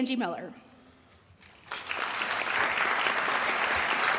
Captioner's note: audience applauds